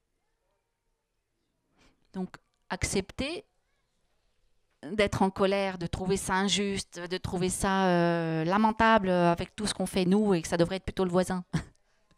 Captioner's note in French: elle rit